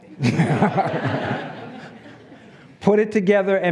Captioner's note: laughs